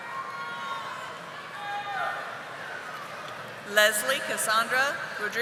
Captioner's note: audience cheering